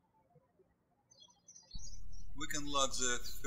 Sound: birds chirping

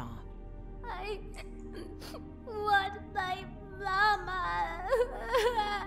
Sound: sobbing

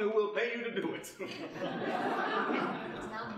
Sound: audience laughing

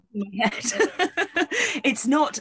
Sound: laughing

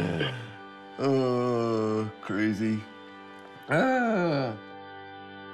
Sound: chuckles; inhales deeply; exclaims

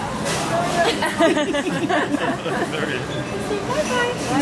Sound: all laughing

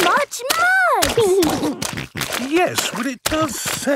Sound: snorting

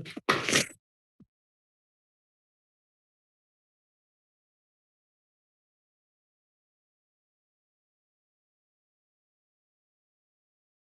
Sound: silence

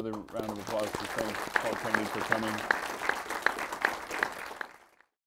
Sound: audience clapping

